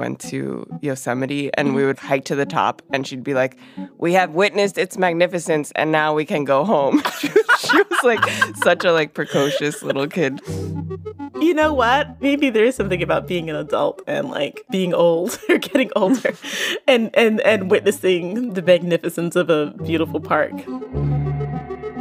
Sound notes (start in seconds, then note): 6.9 both laugh